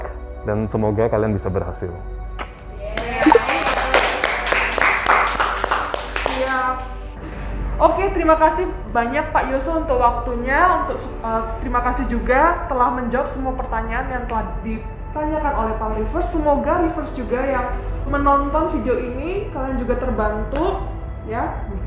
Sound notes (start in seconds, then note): 2.9 applause